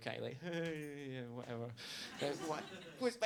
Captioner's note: laughing